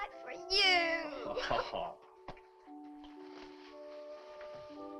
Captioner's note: laughs